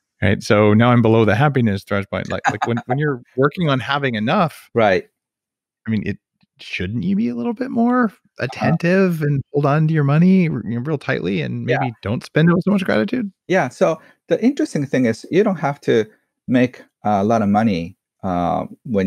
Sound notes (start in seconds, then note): 2.0 laughs